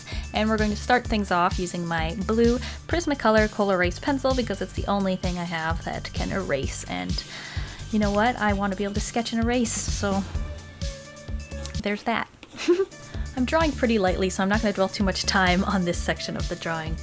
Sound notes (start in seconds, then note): 12.5 giggle